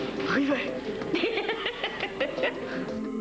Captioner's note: Rires